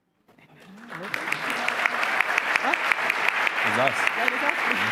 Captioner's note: applause